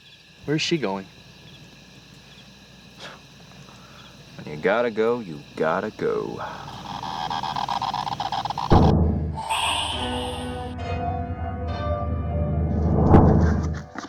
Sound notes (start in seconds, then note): 6.6 device Activating; 10.4 suspenseful Piano Music Plays